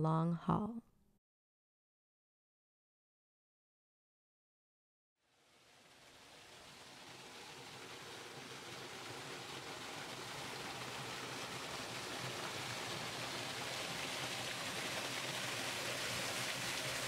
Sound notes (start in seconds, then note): 5.3 sound of rushing water